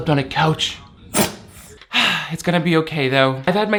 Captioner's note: dog sneezes